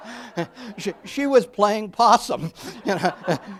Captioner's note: audience laughs; laughing